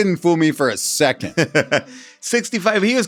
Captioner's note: laughs